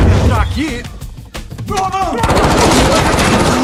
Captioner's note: exclaims